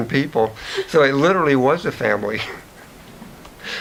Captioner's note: chuckles